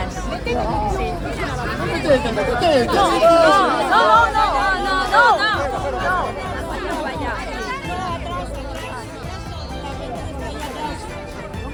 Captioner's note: chaos chatting